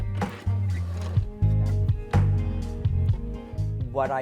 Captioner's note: machine whirring